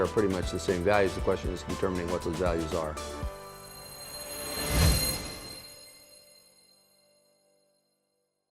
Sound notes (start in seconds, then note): 3.3 digital sounds